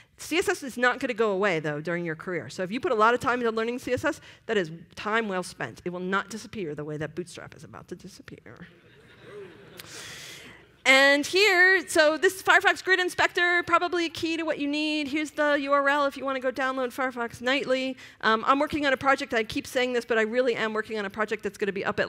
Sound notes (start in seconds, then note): 8.6 laughter